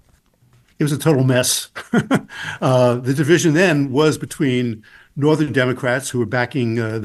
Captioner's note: laughs